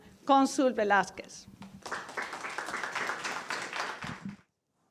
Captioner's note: applause